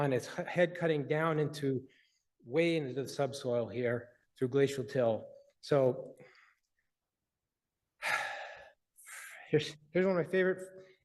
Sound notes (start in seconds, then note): 8.0 breathes heavily